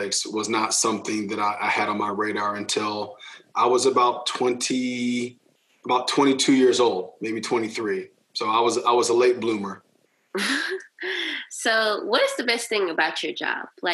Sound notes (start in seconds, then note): 10.4 chuckling